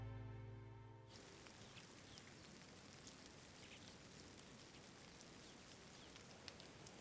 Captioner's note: rain pattering